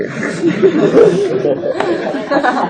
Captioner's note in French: Rires